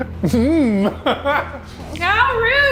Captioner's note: laughs